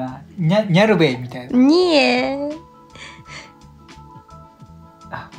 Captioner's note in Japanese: 笑い